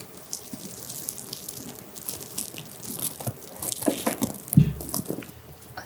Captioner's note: rustle